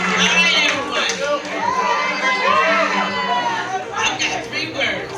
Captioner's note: crowd cheering